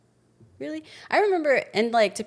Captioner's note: none